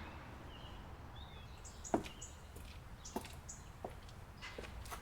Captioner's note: birds chirping